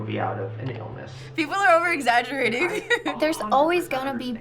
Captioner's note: giggles